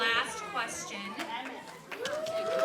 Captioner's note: applause